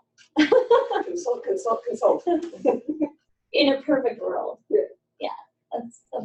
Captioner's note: laughter